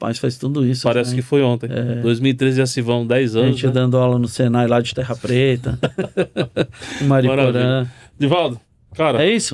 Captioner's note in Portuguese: risadas